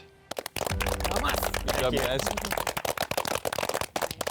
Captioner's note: participants clapping